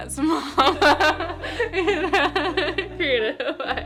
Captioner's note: laughing